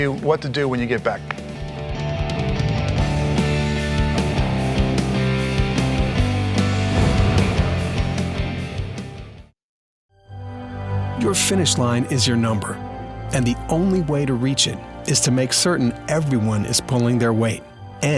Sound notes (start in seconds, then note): 3.0 upbeat music; 11.4 voiceover